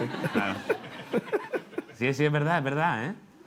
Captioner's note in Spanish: Risas